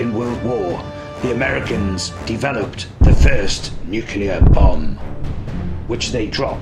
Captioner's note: canon firing